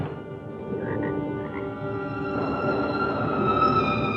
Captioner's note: frogs croaking